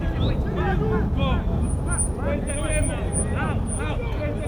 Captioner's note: field chatter